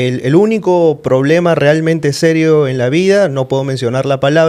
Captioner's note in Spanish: none